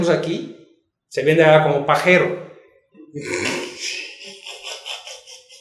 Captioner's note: laughs